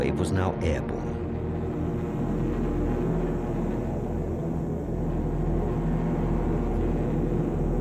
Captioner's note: plane engine roars